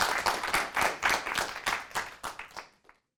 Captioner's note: applause